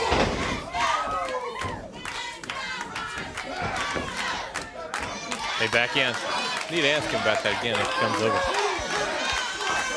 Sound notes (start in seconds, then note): 0.0 crowd cheering